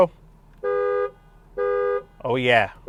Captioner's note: honking